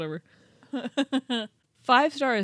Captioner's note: chuckling